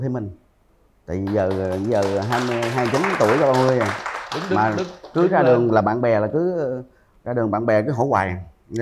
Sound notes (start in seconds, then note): 2.9 applause